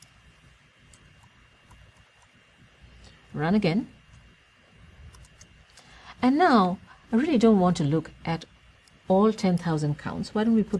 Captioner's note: pause